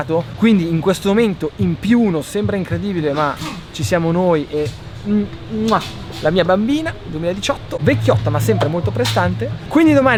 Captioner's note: kisses